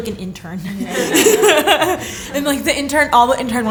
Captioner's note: laughter